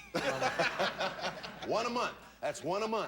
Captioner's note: audience laughing